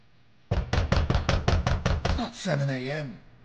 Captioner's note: knocking on door